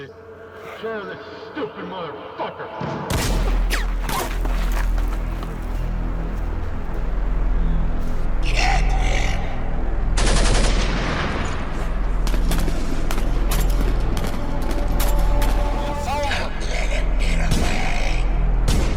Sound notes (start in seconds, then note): 10.1 gunshots